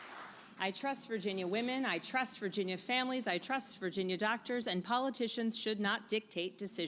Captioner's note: applause